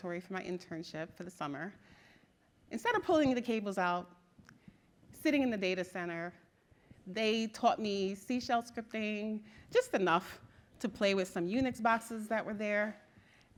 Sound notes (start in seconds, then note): none